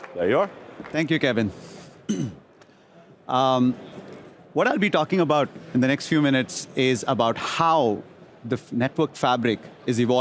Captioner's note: applause